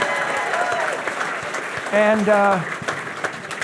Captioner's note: audience cheering; audience applauding